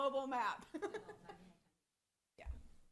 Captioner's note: giggles